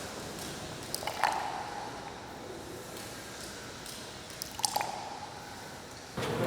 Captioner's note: dripping continues